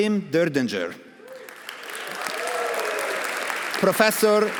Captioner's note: audience applauding; audience cheering